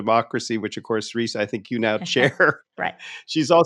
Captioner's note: laughing